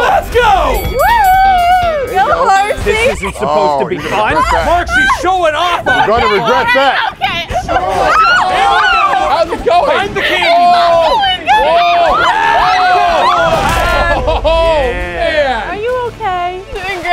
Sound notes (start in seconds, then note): 9.1 screaming